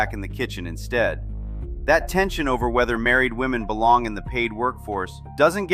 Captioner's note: thoughtful